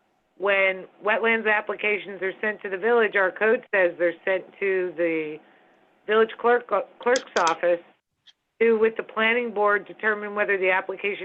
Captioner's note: phone